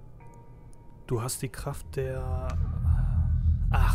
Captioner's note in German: bedrohliches Geräusch